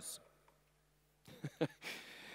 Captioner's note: laughs